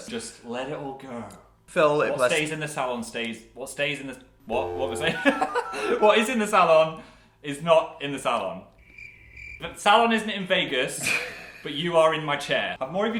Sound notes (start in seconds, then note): 4.9 laughs; 8.8 crickets; 11.0 laughs